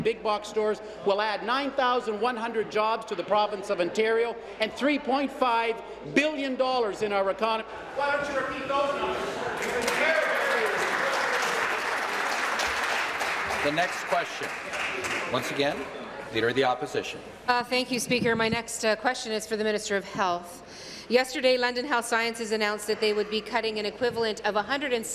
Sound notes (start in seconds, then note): 11.7 voice fades; 13.8 applause